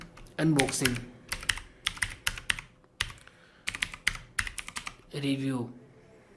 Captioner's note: keyboard sound